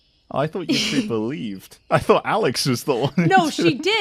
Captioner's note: laughs